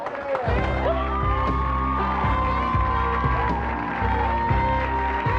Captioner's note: audience applauds